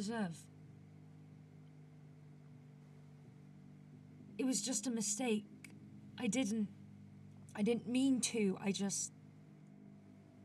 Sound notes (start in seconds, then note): 0.7 a pause